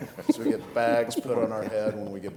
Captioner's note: all laughing